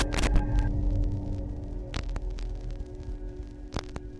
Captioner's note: crackling static